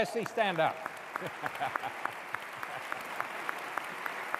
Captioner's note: applause